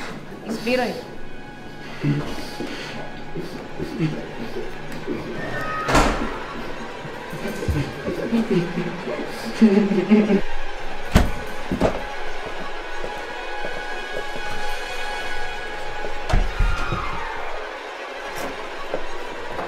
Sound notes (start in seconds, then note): 7.1 sobbing continue